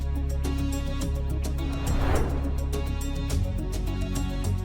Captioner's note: air swooshing